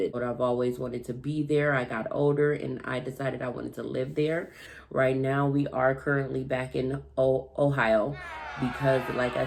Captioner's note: crowd booing